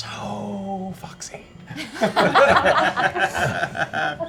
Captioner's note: laughter